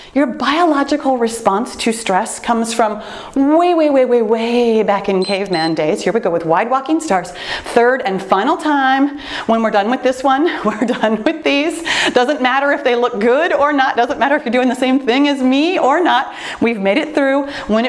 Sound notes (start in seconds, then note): 5.2 timer beeps